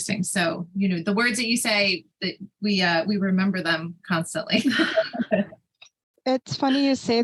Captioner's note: chuckles